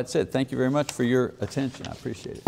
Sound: paper rustling

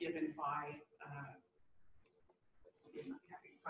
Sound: pause

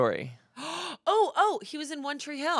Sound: gasps

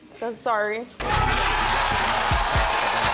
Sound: more applause

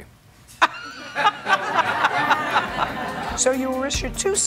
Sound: laughter

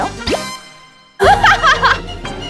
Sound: laughing

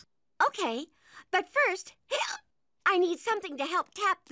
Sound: hiccups

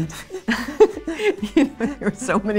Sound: all laugh

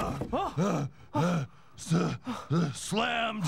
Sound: loud thunk; panting

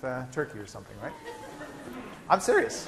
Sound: laughter

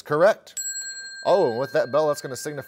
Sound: bell chimes

